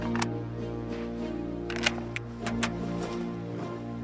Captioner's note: gun cranking